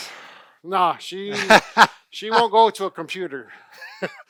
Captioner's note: laughs